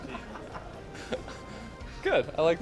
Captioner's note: laughter